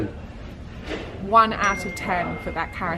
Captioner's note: bell rings